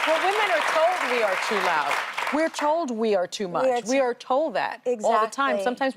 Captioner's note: applause